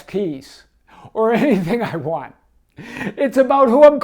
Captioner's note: laughs